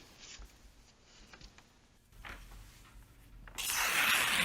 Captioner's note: light rustling; paper ripping